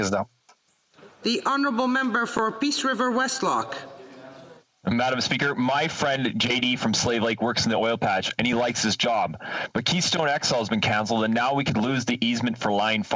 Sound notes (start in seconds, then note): 3.4 speaking French